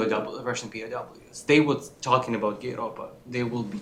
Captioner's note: non-english